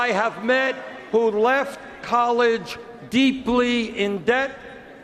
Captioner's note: cheers and Applause